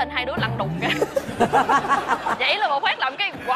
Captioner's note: laughs